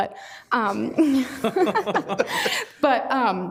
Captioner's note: all laughing